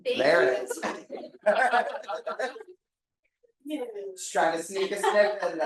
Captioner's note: audience laughing